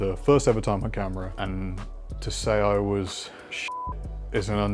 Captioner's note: beep